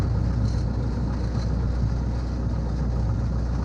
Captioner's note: engine rumbling